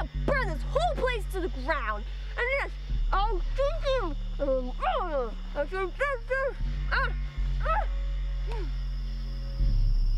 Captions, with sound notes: he'll burn this whole place to the ground. (mumbled ranting)